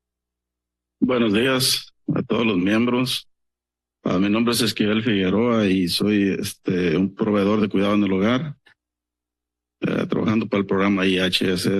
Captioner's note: foreign language